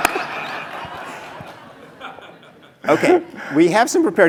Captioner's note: laugh